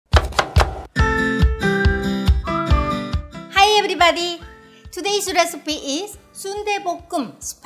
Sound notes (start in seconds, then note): 0.1 knife thunking; 0.1 upbeat music